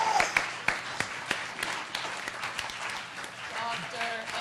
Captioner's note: applause